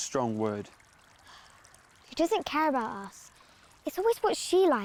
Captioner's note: sighing